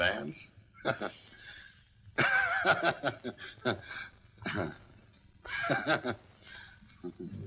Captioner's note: Heath laughs awkwardly